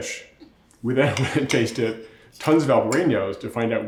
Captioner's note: laughs